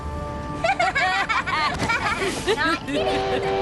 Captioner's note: laughter; train whistle blows